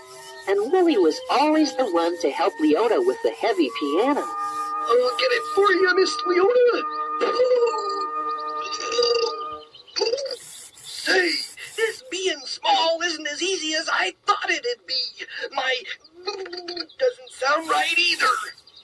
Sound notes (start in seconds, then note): 10.0 Woolly Whats-it Noise